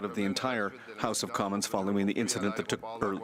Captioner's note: speaking french